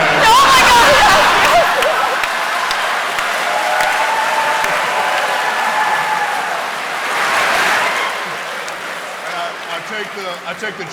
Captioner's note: cheering and applause